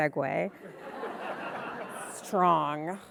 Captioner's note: audience laughing